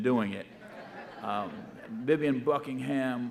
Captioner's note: audience laughing